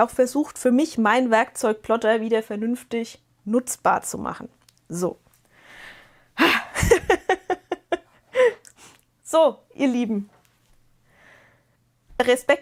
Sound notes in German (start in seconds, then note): 5.5 japst; 6.6 gelächter